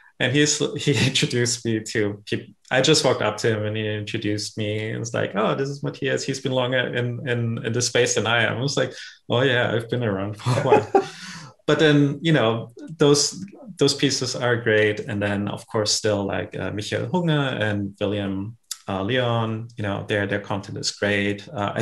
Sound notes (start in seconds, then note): 10.3 laughs